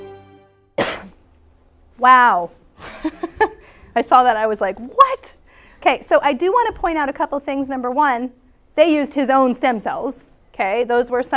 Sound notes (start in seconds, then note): 0.7 coughs; 2.8 laughs